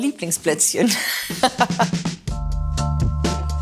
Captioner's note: she laughs; casual music